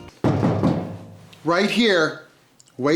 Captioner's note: knock knock